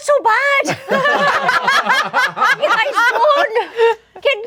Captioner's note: group laughing